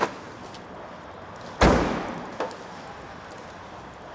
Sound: trunk closes

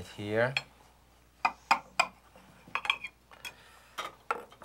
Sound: knife clanking

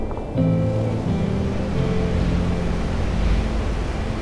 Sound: river flowing

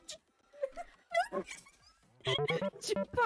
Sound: both laughing

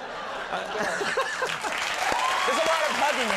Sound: audience applauding

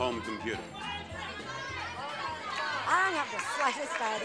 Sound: audience yelling

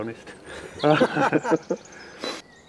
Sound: laughter

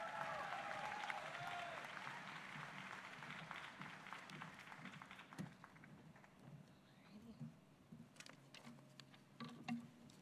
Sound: applause

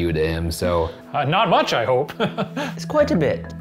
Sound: laughs

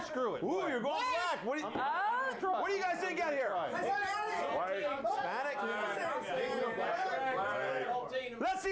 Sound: audience shouts answers

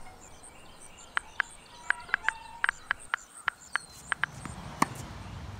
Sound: keyboard clicking

